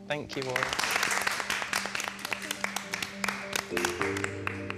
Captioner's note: applause